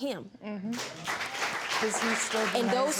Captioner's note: applause